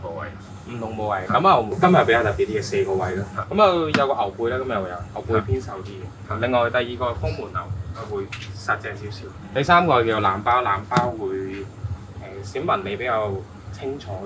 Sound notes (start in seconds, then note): 1.3 chef 2 speaking in foreign language; 9.6 chef 2 speaking in foreign language